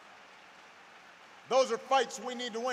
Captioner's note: applause